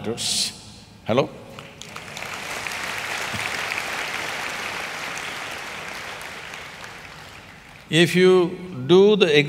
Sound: applause

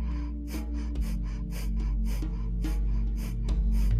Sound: huffing

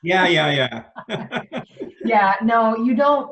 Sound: laughs

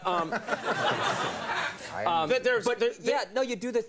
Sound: audience laughing

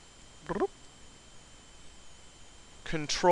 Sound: bloop

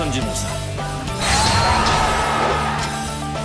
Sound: ObjectiveCompleted.mp3

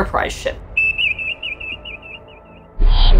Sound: beeping sound effect; sound abruptly fluctuating between low and medium pitch

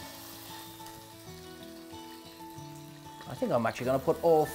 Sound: pan sizzling

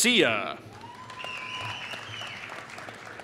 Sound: applause

